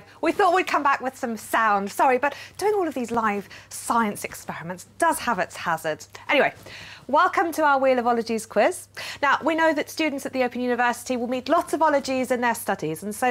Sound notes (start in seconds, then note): none